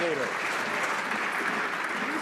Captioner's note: some Applause